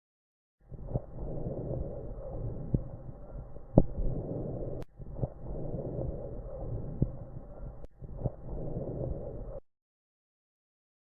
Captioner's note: normal lung Sound